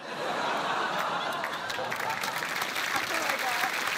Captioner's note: laughter, applause